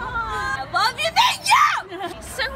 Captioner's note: screams